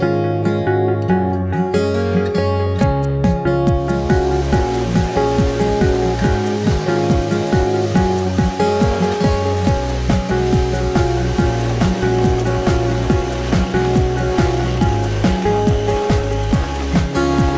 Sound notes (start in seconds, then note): 4.0 vacuum sucking